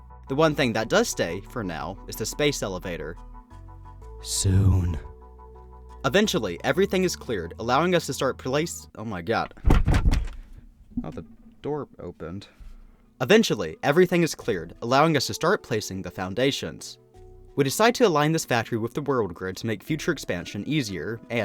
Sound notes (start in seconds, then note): 9.4 paper banging sounds